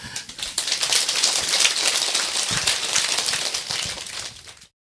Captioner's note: applause